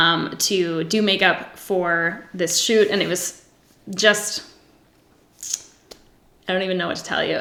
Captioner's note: sucks teeth